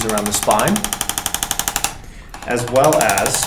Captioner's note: instrument clicking